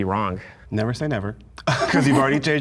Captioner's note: laughs